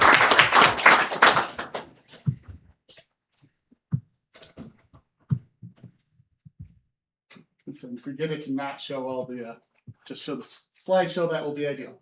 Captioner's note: applause